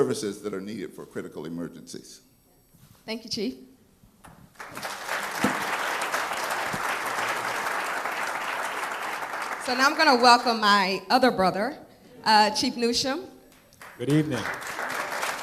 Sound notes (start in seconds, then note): 4.5 applause; 13.6 applause